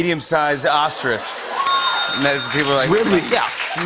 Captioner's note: bell dings